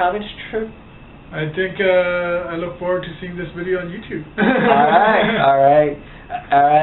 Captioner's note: laughs